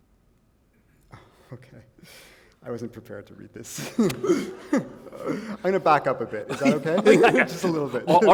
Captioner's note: chuckle; laughter